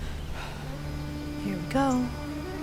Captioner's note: Rachel sighs